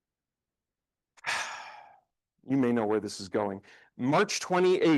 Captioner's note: sighs